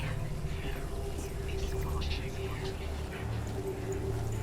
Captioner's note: distorted, whispering